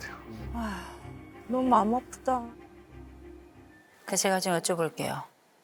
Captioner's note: sigh